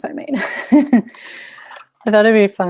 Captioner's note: chuckles